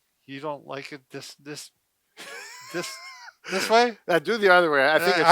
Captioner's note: laughs